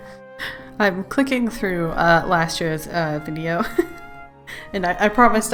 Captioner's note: laughs